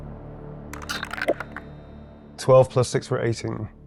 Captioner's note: dice rolling